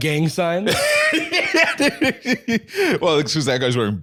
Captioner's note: laughing